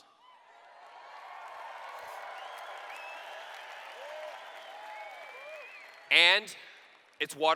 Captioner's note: cheers